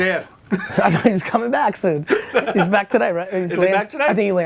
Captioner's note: laughs